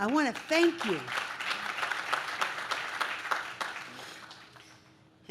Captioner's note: audience claps